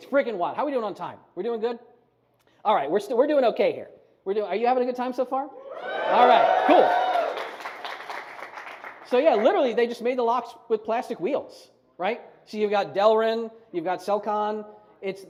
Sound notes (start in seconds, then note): 5.6 audience whoops